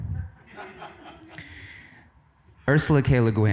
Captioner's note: audience laughs